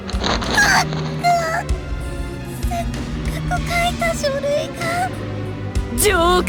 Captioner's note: gasp